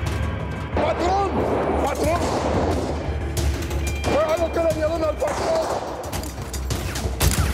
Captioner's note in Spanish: Disparos